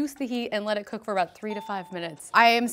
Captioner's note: ding